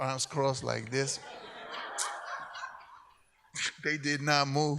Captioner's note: audience laughs